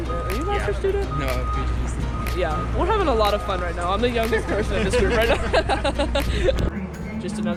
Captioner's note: laughs